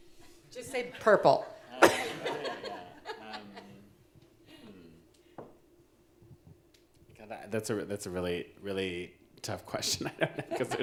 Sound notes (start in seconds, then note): 1.8 audience laughing; 1.9 mumbling